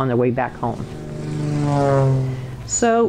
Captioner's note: plane engine roaring